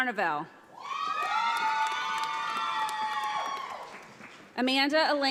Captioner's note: audience applauds